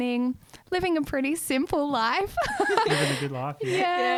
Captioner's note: laughs